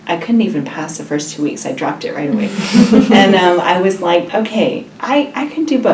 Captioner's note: laugh